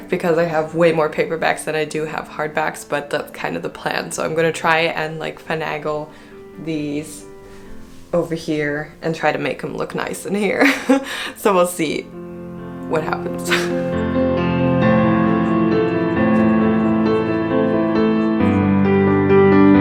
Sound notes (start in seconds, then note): 10.6 laugh